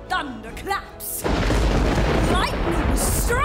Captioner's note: thunder booms